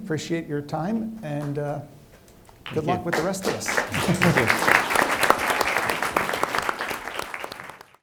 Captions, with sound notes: Appreciate your time and good luck with the rest of this. (participants applauding)